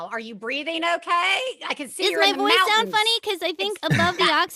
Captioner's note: raised voice